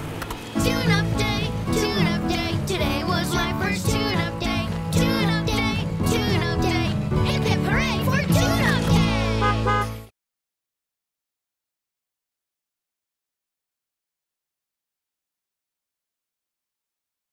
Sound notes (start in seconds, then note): 0.1 singing; 9.2 honking